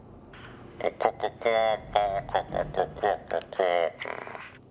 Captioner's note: chicken speaking gibberish